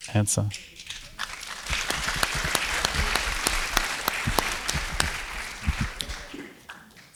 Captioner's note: applause